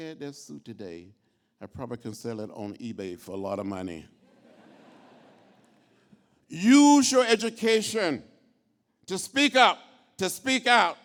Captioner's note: laughter